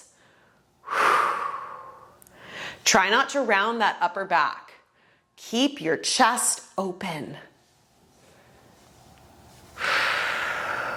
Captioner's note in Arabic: زفير